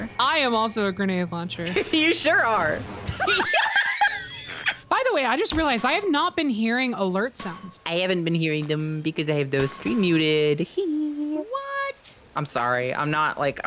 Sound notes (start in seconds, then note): 3.0 explosion; 3.0 both laugh; 3.0 laughs; 8.1 cutesy voice